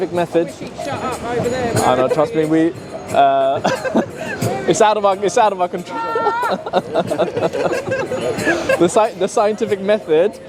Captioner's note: laughing